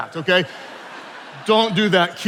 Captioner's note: attendees laughing